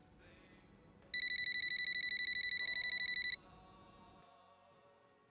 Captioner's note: phone ringing